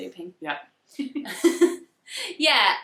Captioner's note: laughs